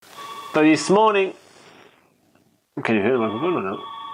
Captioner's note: phone ringing